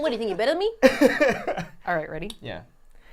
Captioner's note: laughing